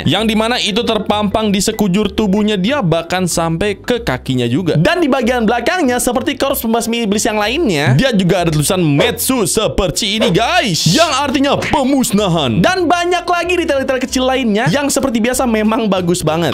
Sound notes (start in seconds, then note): none